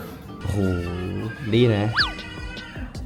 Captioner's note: A baby crying